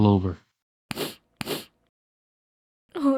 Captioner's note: sad sniffles